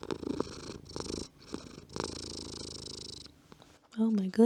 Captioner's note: purring